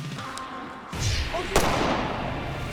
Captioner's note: gun fires